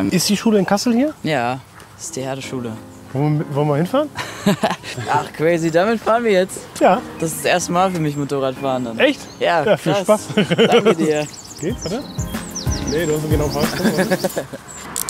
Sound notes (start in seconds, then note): 4.1 laughs